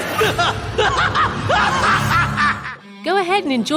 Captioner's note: maniacal laughing